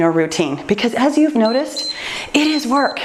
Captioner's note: timer beeps